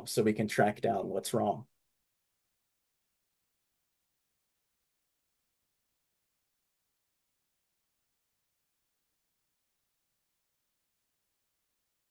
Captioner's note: silence